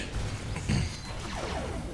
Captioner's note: grunt of righteousness